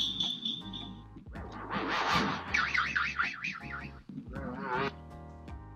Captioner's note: cartoon sound effects blare